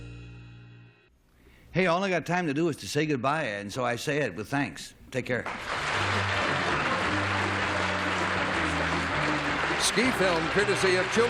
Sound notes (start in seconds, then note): 7.3 applause; 9.2 theme music